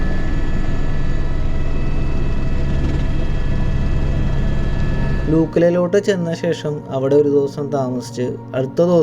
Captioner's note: helicopter sound from the interior